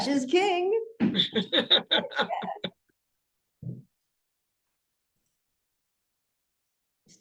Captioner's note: laughter